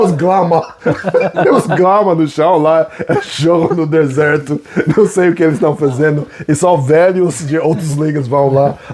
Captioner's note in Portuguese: risadas